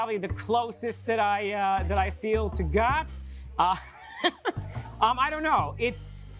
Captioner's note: laughs